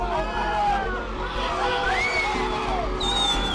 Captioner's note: cheering